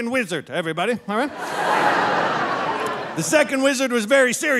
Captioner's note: audience laughing